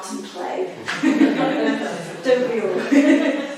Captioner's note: audience chuckling; chuckles; audience chuckling